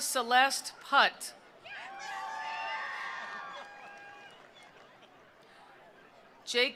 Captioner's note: attendees cheering; attendees applauding